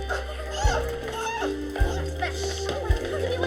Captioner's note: students scuffling